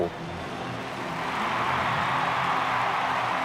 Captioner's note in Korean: 환호성